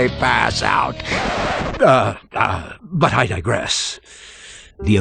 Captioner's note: record scratch sound